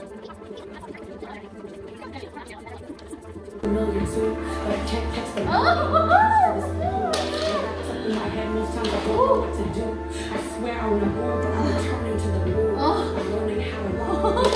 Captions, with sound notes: *squealing* oh my god ugh...